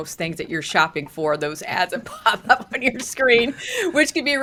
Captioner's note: laughs